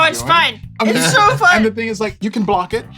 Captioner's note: strained voice